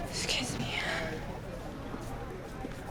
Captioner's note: students chattering